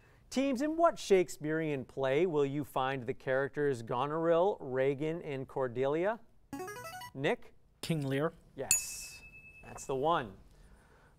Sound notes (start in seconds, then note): 6.6 player buzzer; 8.6 ding